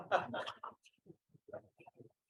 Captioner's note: laughter